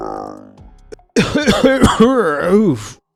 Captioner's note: coughs